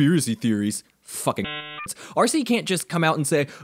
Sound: censored by dialup noise

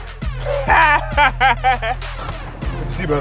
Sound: laughing

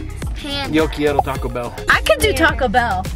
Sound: speaking in foreign language

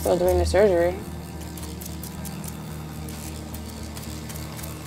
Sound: machine buzzing

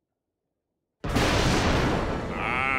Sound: thundering

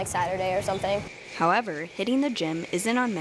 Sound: voiceover

